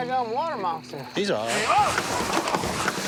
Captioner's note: screaming